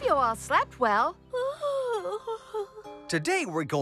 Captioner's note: yawns